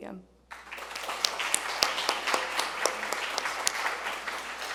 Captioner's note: crowd clapping